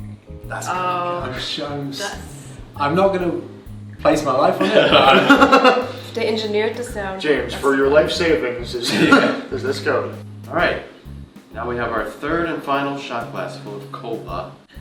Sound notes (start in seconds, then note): 4.6 laughter